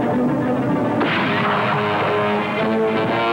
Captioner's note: gunshot; suspense music